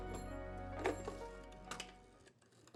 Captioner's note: dialing